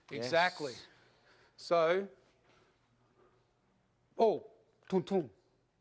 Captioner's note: making shooting sound